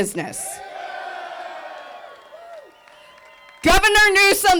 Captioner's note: group cheering